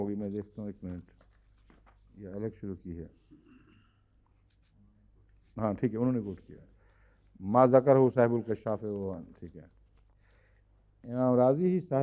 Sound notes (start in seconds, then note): 7.6 Arabic